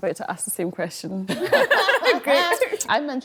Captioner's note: all laugh